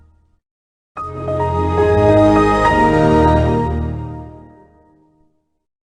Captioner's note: Windows XP Startup